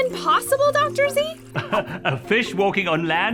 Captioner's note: giggles